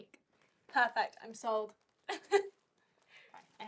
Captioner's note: Sofia laughing